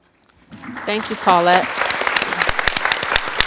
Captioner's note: audience applause